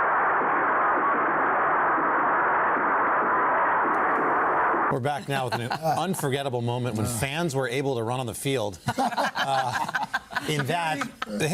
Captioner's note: cheers